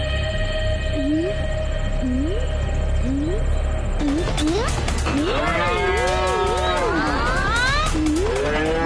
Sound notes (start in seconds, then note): 5.1 Buffalo grunts